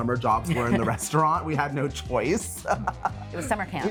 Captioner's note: laughs